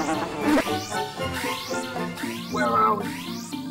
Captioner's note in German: Signal ertönt